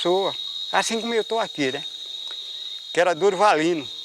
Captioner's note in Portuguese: Sons de insetos no mato